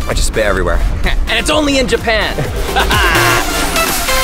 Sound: laughs

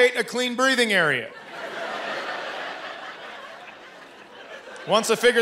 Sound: laughter

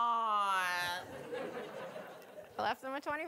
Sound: audience laughing

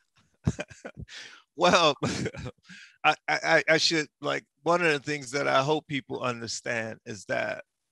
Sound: laughs

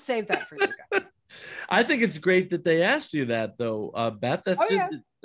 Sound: laughs

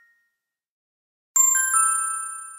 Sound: ding!

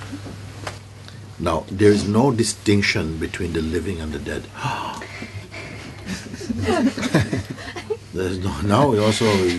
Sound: gasps

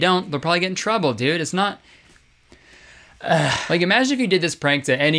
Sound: groans

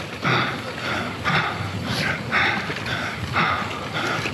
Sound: panting

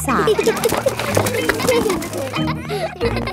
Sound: kids giggling

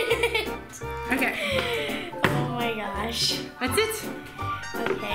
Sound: laughs; inhales

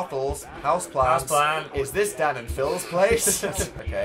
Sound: laughs

